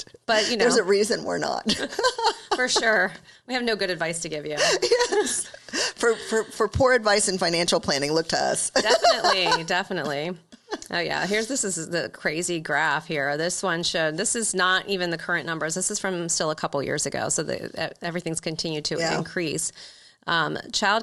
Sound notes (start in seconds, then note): 1.6 laughing